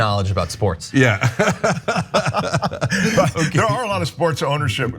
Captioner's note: laugh